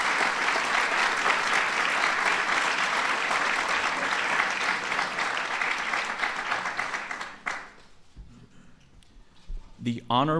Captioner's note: applause